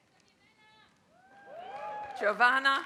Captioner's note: applause